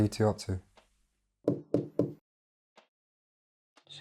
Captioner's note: knocking on door